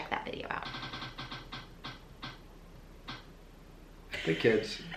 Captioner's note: wheel rattling